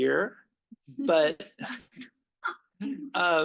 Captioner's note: laughter